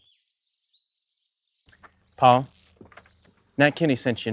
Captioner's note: fire crackles